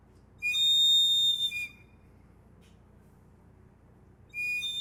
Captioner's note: eagle whistle whistling